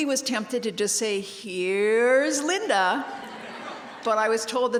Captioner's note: laugh